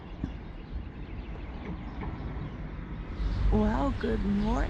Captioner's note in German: Vögel zwitschern